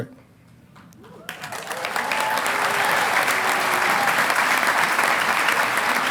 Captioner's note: audience applauding